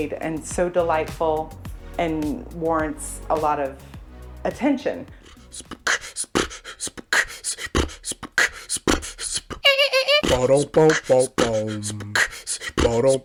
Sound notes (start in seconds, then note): 5.2 man beatboxing; 9.8 characters scatting